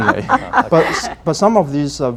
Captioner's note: laughter